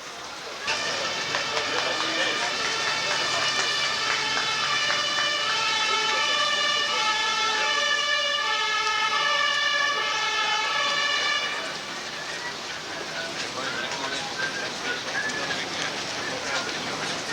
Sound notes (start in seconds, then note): 0.7 laughing; 4.5 siren and clapping